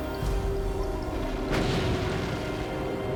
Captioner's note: gunfire